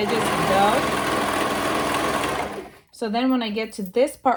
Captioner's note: machine whirring